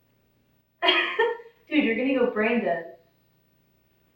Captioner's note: giggles